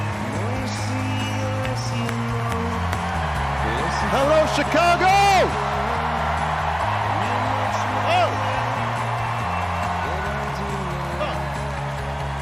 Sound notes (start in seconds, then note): 0.0 cheers and applause